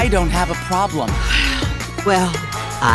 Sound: sighs

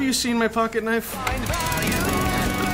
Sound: lawn mower engine

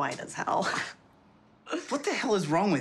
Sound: chuckling

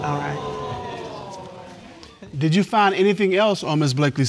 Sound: audience exclaiming

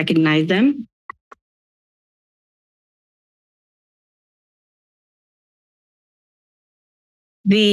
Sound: silence

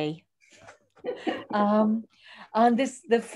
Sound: laughs

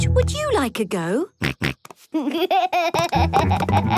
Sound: snorts, giggles

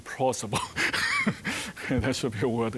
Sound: chuckling

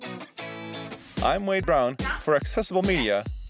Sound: voiceover

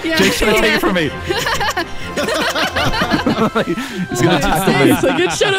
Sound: all laughing

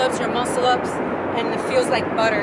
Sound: none

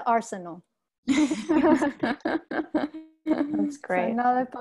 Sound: both laughs

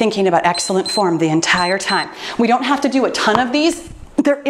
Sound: timer beeps

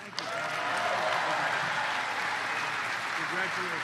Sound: applause

